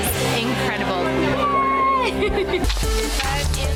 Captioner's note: laughs; upbeat music